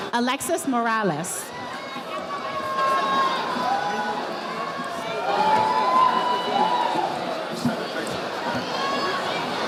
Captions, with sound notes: Alexis Morales. (audience chattering)